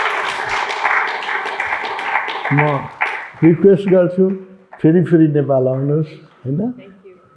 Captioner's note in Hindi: तालियाँ